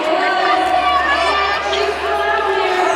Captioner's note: cheering crowd